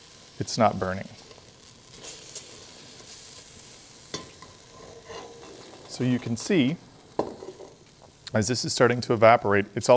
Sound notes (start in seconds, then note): 0.0 pan sizzling; 1.8 pan sizzling